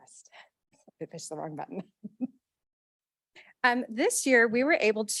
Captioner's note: chuckles